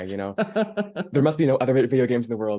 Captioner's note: laughing